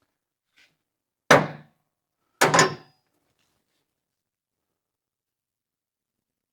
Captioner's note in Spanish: Metal Clanking